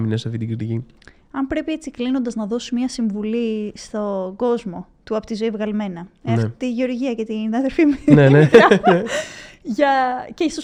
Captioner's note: laughs